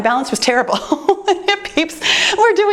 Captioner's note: laughs